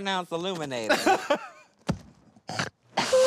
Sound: laughs

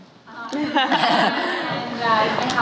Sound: laughing

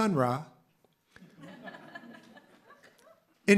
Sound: laughter

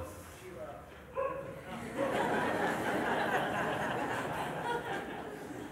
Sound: laughter

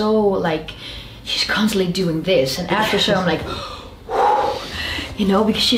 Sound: exhales

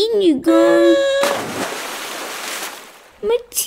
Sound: splash!

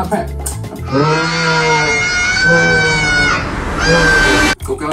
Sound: cat Screaming

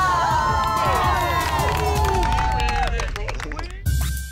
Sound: cheering

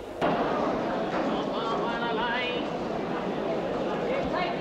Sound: crowd chattering

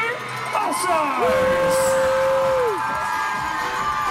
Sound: cheering

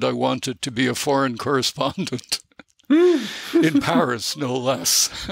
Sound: chuckle

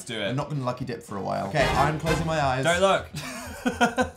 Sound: look away noise; giggling

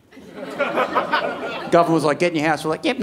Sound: audience laughing

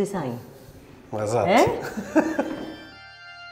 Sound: both chuckle; pipe organ continues playing

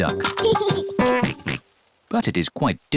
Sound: giggles and oinks

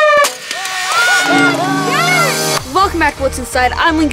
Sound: yelling

